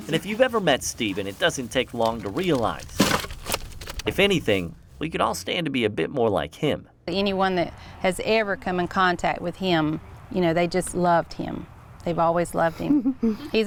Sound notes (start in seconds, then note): 3.2 wood rustling